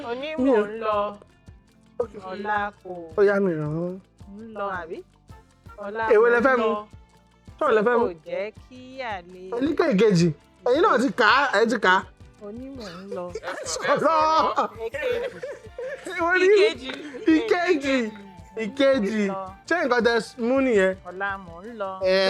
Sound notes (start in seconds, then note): 12.7 laughs